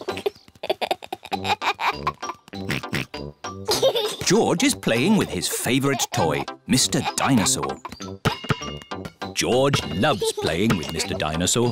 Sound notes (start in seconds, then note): 0.0 giggles; 2.6 oinks